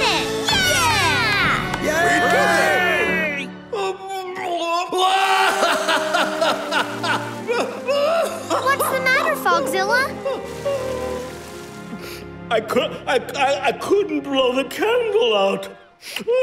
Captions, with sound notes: Yeah! Yay! [crying] What's the matter, Fogzilla? I cou... I couldn't blow the candle out.